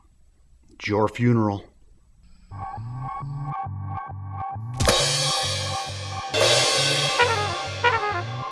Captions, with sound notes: - It's your funeral. (suspenseful music) (loud bang)